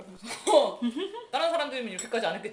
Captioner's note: laughing